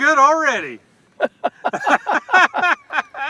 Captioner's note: laughter